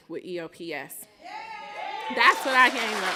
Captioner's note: cheering